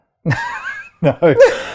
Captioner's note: laughing